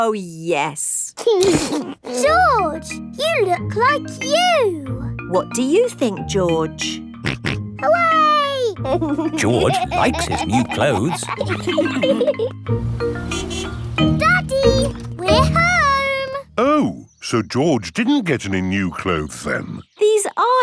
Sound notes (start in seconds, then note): 8.8 snorts and laughs; 12.8 horn honks